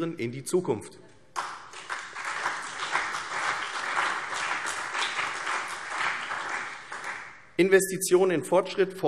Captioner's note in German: Beifall CDU und BÜNDNIS 90/DIE GRÜNEN